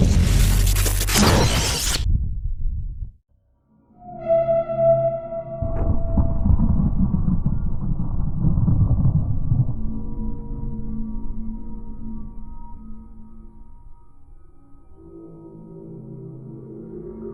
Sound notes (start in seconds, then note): 4.0 high pitched sound; 5.6 thunder